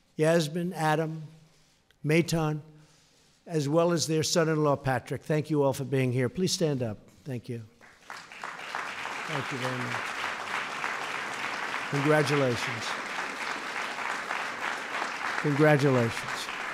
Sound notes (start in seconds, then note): 8.0 applause